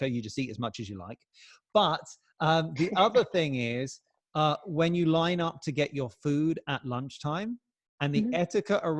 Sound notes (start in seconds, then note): 2.8 chuckles